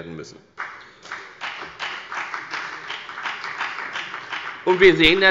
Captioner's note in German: Beifall bei der FDP